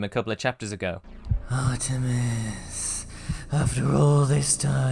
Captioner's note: breathily